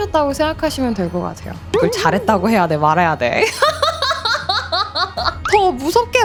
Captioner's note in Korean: 웃음